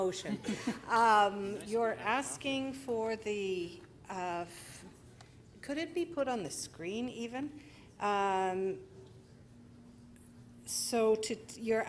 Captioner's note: laughter